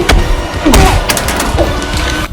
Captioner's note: knife drops